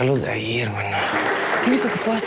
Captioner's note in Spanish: Aplausos